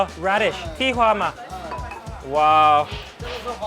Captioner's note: speaks in a foreign language; man speaks in a foreign language